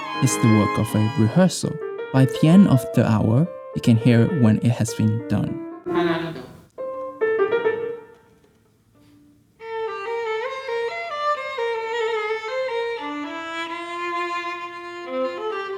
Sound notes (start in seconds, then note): 5.8 speaking Cantonese